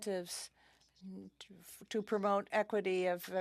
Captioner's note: speaking in French